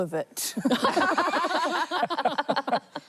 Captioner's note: laughter